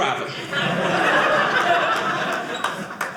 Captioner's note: audience laughing